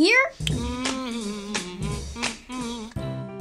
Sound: humming; playful intro

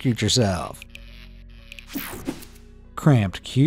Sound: electricity buzzing

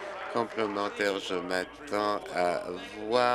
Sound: applause

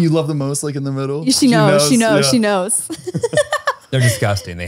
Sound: laughs

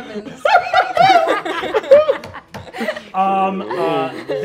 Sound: players laughing

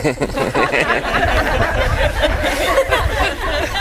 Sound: guests laughing

